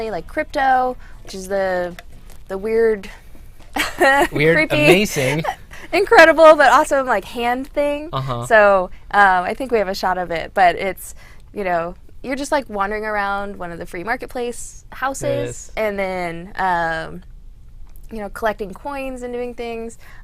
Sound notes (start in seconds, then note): 4.6 laughs